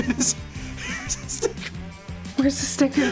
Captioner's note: wheezing